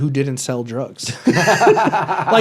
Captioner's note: laughs